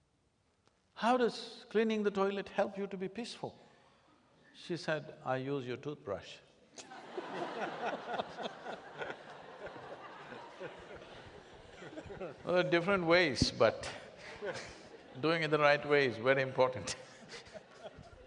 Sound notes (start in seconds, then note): 9.3 laughter; 17.1 laughs